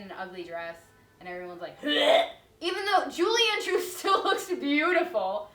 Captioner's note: puke noise